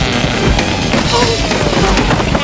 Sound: groaning

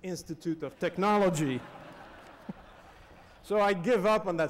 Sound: laughter

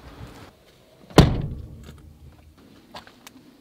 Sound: trunk slamming shut; footsteps grinding dirt

